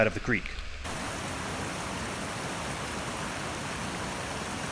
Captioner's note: water gushing